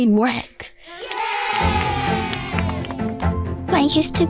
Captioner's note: kids cheering: "YAY!"